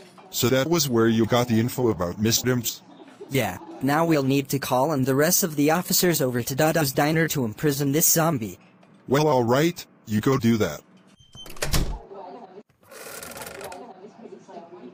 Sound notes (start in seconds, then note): 11.1 door closes; 12.8 floor squeak